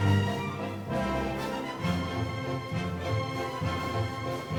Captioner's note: fabric rustling